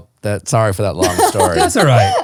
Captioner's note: laughing